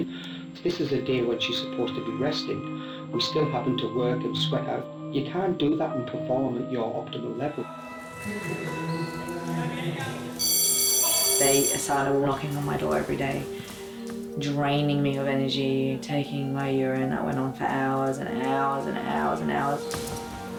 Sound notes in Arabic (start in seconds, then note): 10.1 رنين الجرس